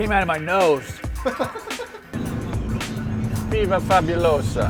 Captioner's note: chuckling